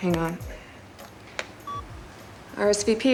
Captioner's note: beeps